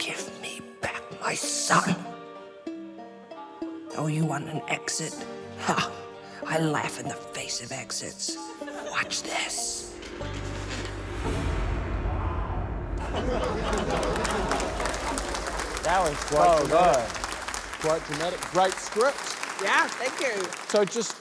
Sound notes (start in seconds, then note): 12.9 cheering, applause